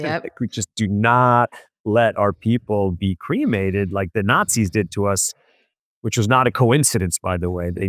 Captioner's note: laughs